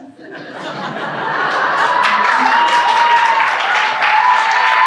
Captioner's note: audience clapping